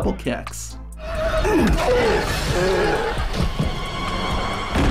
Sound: Khali groaning

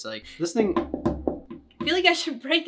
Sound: grapes hitting table

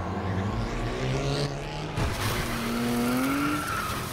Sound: car revving

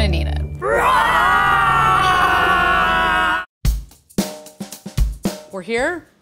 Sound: roaring like a dinosaur in unison

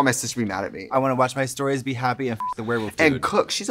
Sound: beep

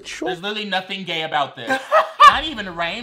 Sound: laughs

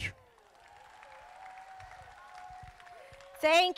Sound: crowd applauding

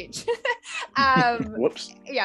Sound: laughing

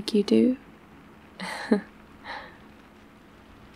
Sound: laughs

